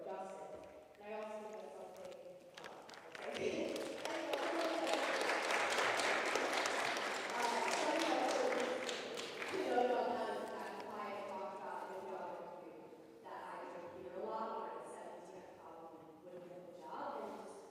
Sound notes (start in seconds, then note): 4.5 applause